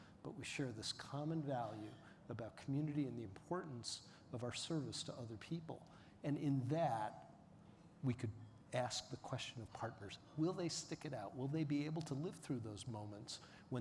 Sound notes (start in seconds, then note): none